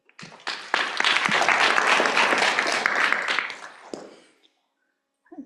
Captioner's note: applause